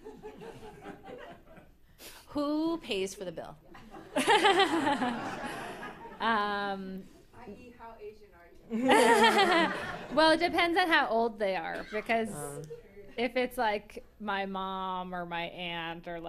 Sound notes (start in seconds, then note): 3.7 laughter